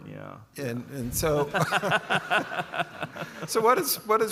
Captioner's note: laughs